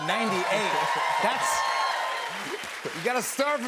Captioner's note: cheers and applause